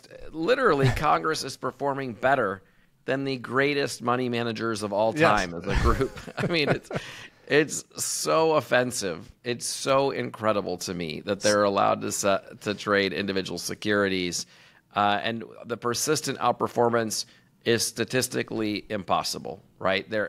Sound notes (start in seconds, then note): 5.2 both laughing